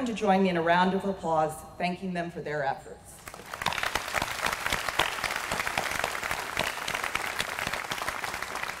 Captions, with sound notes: to join me in a round of applause, thanking them for their efforts. [APPLAUSE]